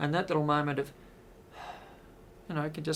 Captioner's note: sigh